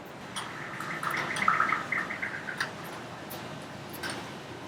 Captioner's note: synthesized bird noises